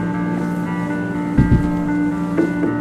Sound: tennis shoes scuffs

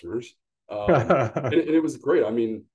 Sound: laughs

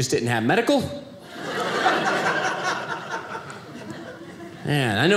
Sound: audience laughing

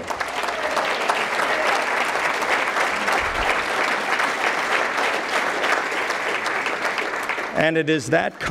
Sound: applause

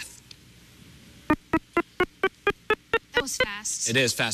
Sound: beeping

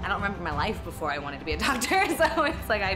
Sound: laughter

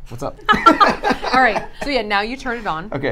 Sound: all laugh

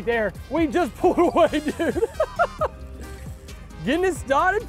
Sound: chuckles

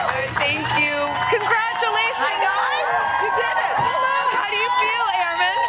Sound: cheering and applause

